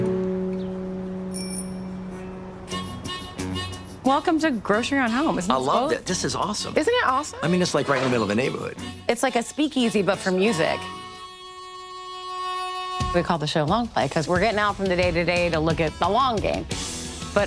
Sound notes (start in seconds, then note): 1.3 bike bell rings; 11.1 harmonica music